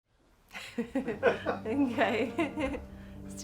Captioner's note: laughs